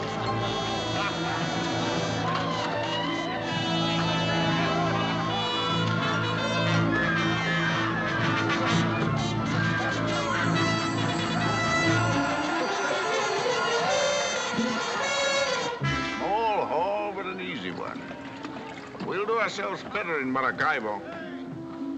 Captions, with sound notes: (LAUGHING) (SCREAMING) A poor haul, but an easy one. We'll do ourselves better in Maracaibo.